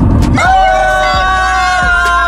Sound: screaming

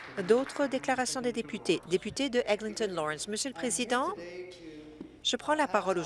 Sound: some Applause

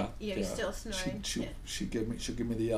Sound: voiceover

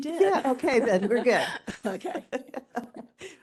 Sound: laughing

